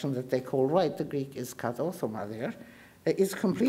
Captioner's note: speaking in foreign language